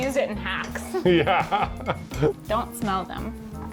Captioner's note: laughs